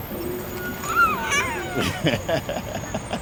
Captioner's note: girl shrieking; laughing